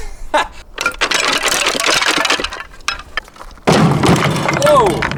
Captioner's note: laughs; wood falling